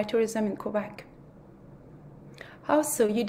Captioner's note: white noise